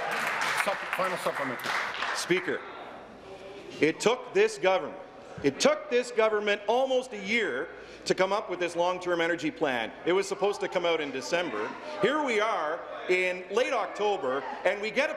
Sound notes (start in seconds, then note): 2.6 applause